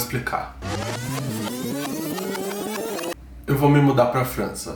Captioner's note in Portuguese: som de rebobina